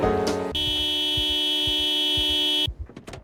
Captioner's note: car Horn